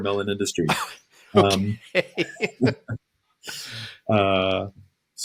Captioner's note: laughter